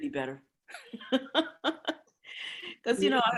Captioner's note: chuckling